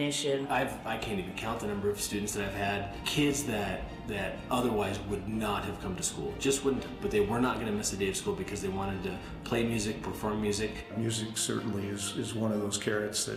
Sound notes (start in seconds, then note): none